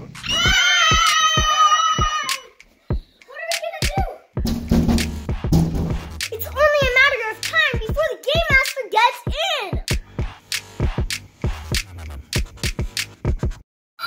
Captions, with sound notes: Ahhhh! What are we gonna do?! [Pounding] It's only a matter of time before the Game Master gets in!